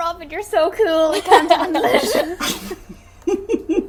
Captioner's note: everyone laughing; laughing